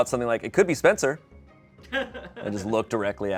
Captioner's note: laughs